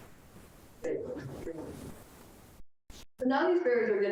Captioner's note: speaks distorted